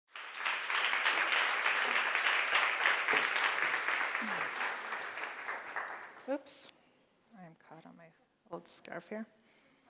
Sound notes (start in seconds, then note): 0.0 applause